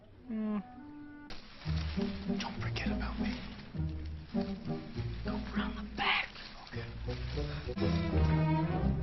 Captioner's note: whispering